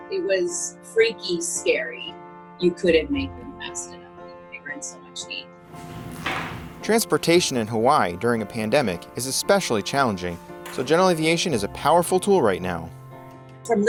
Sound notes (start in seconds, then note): none